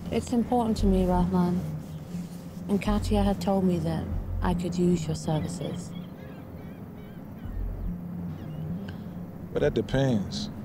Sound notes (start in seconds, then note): 5.1 gulls squawking in background; 7.2 tense pensive music